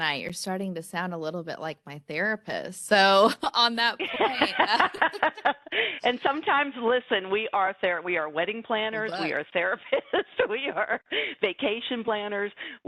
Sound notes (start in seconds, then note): 4.0 laughter